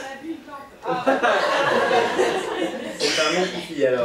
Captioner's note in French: rires public